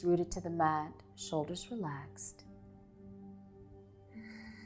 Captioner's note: exhaling